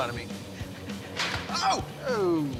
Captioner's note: clank